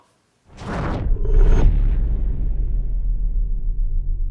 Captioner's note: logo swooshes